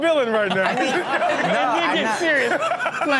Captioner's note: audience laughing